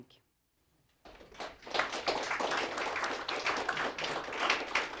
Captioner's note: audience applause